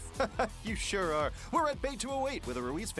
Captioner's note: laughs